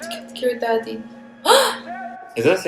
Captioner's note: Gasps in Korean